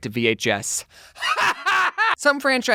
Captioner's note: haHahHAHhAhahaHAhahahAhaHahAHahAHha